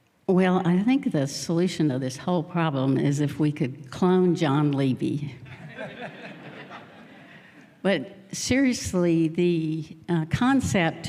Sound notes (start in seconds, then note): 5.5 laughter